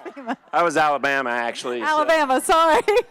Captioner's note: audience laughing